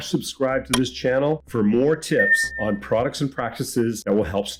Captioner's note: bell dings